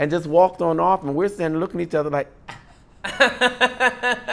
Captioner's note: laughing; sigh